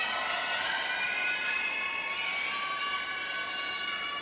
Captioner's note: audience cheering